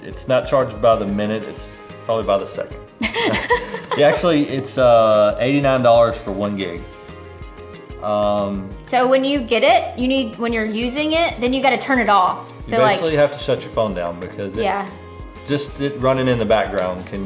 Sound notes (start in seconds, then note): 3.0 laughs